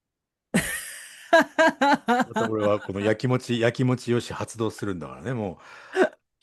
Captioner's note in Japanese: 笑い